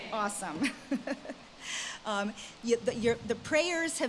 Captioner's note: laughs